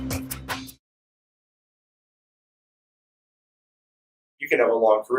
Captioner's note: silence